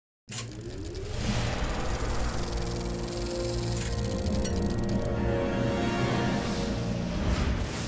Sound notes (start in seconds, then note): 0.4 projector Sound